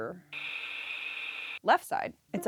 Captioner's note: buzzer